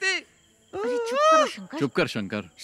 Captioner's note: Hoots